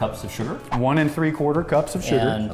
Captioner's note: air whooshing